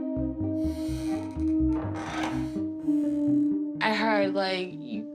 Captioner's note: creaking